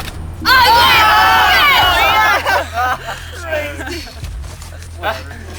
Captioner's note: all groaning